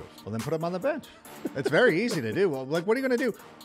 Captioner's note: laughter